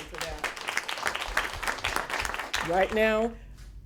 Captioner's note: applause